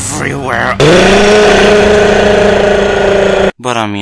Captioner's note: demonic screams of agony